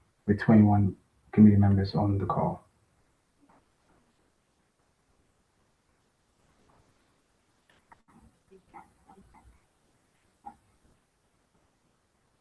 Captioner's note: pause